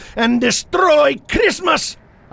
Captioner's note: Teddy chuckling